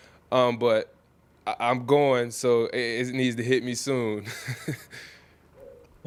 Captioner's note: laughs